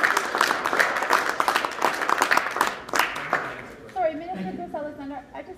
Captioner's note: applause